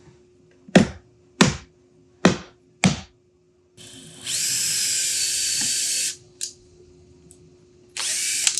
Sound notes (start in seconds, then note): 0.2 mallet banging; 3.8 drill whirring